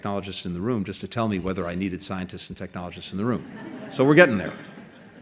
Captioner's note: laughter